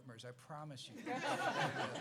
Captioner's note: laughs